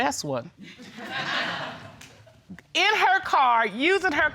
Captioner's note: audience laughs